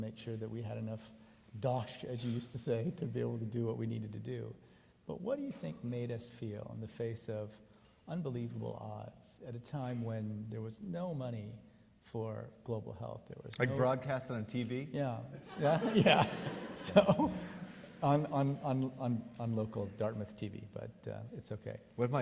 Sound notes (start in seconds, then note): 15.4 audience laughing